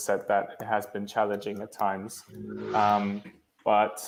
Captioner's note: buzzing sound